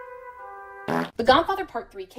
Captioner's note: fart